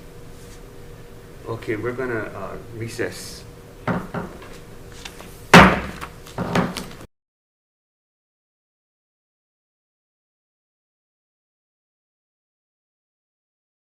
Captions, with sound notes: Okay, we're going to recess. (gavel bangs)